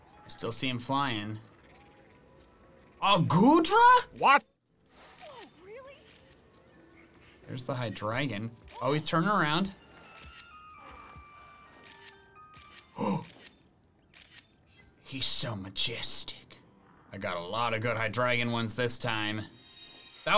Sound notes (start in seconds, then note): 10.1 photo snapping; 12.9 gasping